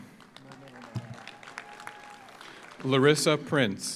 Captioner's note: audience applauds; audience cheers